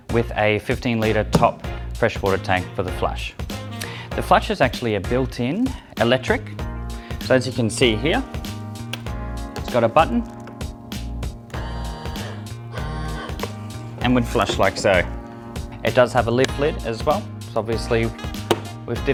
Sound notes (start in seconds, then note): 11.9 potti buzzing